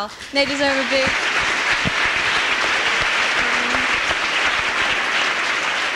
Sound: applause

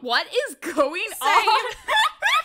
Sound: laughs

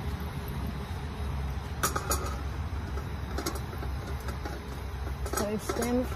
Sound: pot clunks onto stove and clatters while contents are stirred; stirring makes pot clatter again

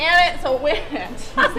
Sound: laughter

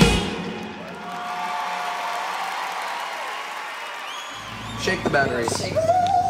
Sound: crowd cheering

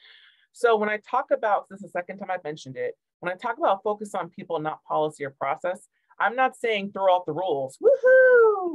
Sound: woohoo!

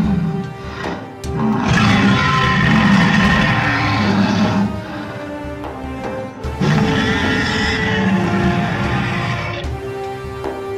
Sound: Indominus Rex growling/roaring

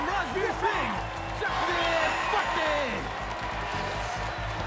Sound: cheering; commentator speaking Punjabi

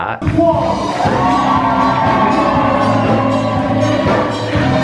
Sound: crowd cheering and clapping

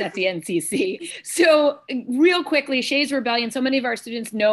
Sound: laughter

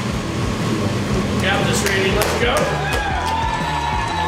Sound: crowd; crowd clapping and cheering

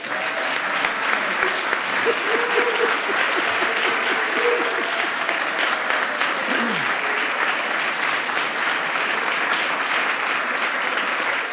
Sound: applause

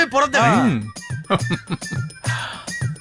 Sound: laughs

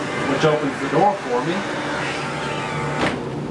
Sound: whirring

